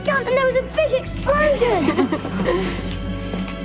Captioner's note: laughing